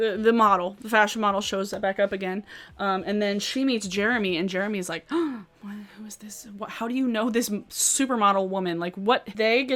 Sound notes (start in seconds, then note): 5.1 gasps